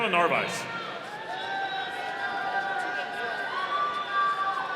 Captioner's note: audience cheering